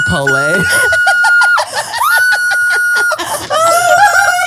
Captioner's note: screams